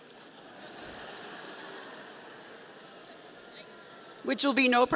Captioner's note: audience laughing